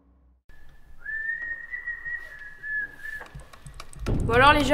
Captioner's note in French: Sifflement